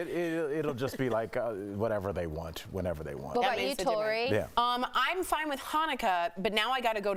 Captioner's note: laughter